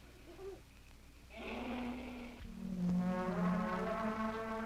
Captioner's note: elephants trumpeting